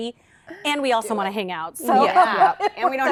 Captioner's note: laughter